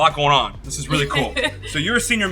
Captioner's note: chuckling